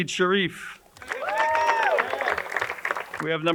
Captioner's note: crowd cheering and applauding